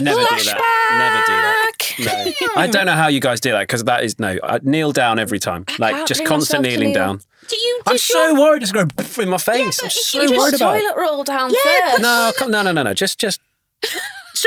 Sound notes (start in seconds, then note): 9.2 imitates explosion